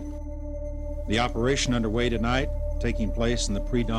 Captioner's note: voiceover